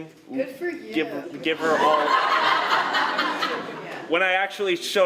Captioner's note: laughter